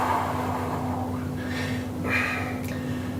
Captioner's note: exhaling